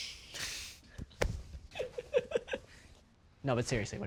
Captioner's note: bucky giggling